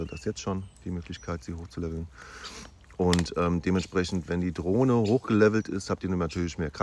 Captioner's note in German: schnauben